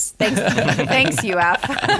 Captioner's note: laughter